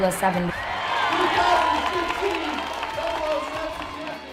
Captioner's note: cheering